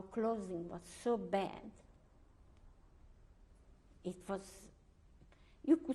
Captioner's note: pauses for 3 seconds